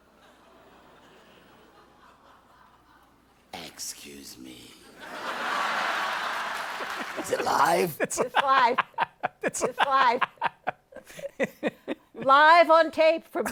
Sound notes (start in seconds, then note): 4.9 laughter; 11.4 laughs